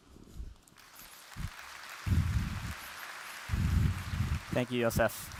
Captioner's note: applause